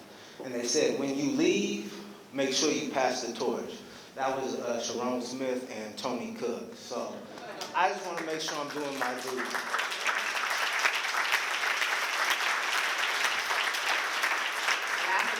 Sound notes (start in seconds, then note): 9.4 applause